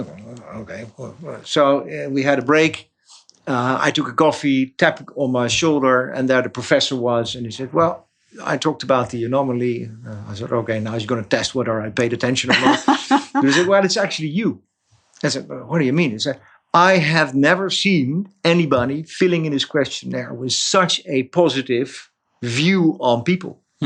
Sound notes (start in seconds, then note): 12.4 chuckles